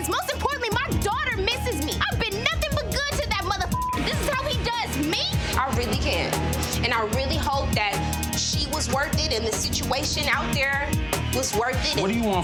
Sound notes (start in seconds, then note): 3.8 beep